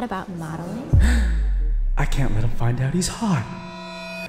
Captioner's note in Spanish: gasps